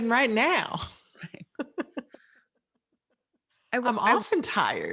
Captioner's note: laughing